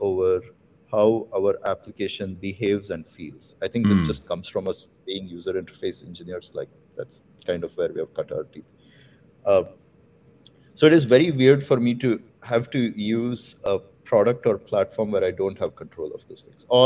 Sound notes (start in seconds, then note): 3.1 audio cutting out